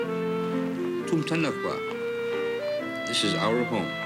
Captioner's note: aleut native language